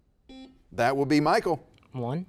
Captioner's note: buzzer beeps